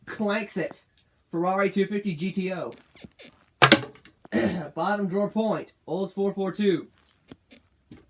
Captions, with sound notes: Clanks it. Ferrari 250 GTO [bed squeaks] [clears throat] Bottom drawer, that's a point. Olds 442